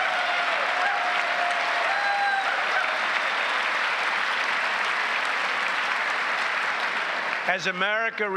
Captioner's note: applause